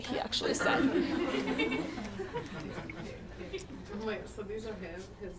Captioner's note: attendees laugh